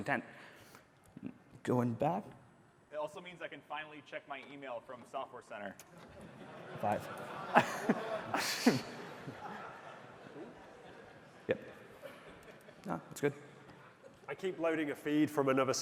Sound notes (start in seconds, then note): 8.9 laughing